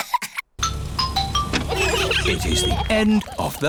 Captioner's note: trumpets; horns honking